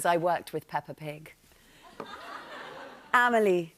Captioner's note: laughter